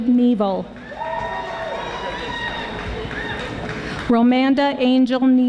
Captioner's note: audience applauding